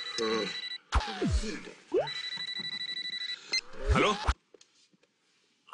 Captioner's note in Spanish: Suena el celular